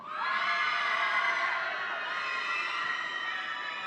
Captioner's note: audience cheering